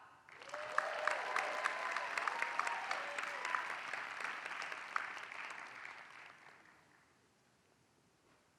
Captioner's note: applause